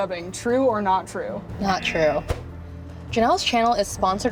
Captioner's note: buzzer